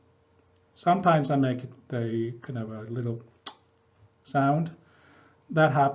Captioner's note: lip smack